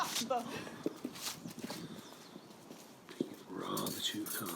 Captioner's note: woman exclaims